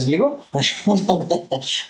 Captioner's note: laughter